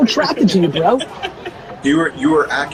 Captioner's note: laughs